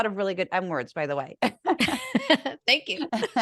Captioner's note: laugh